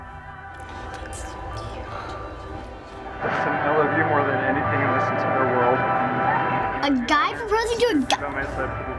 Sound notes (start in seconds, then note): 0.6 gasps; 0.8 whispering